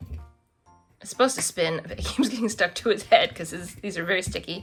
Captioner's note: laughs